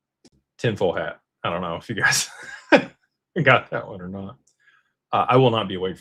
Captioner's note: laughter